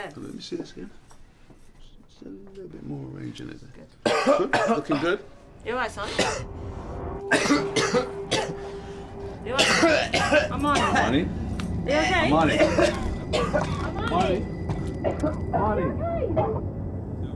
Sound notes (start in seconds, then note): 4.0 coughs; 7.2 coughing intensifies